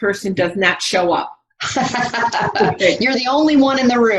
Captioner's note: laughs